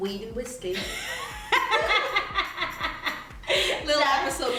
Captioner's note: laughter